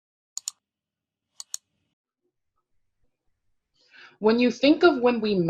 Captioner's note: computer mouse clicking